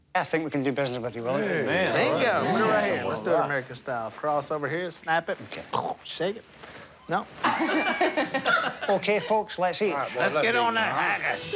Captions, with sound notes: I think we can do better with you, Willie. - Man. - Thank you. Put it right here. Let's do it American style. Cross over here, snap it, and shake it. Nope? [laughter] OK, folks, let's eat. Let's get on that haggis.